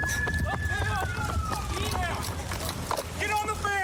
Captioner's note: shouting